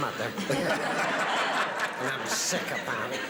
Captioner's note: laughing